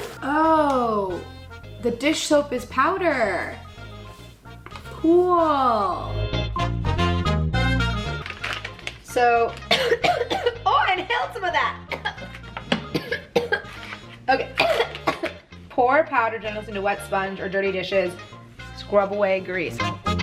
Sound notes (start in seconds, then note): 6.4 jazzy music; 9.6 coughing